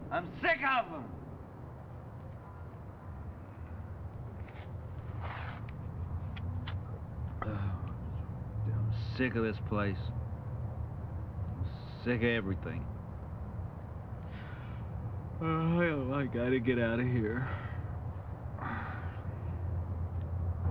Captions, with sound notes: I'm sick of them. Oh, I'm sick of this place. I'm sick of everything. [YAWNS] I've got to get out of here.